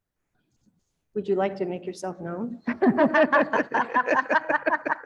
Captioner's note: laughter